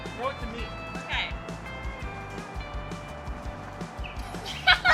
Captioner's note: everyone cackling; laughs